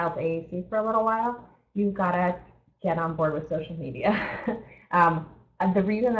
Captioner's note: chuckles